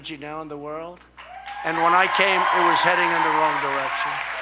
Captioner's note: applause